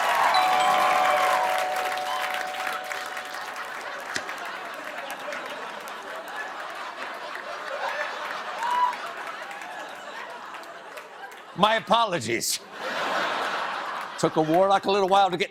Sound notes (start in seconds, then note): 3.4 laughter; 3.6 doorbell ringing